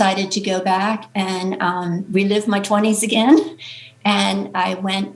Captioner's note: chuckles